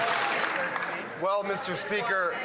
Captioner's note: some Applause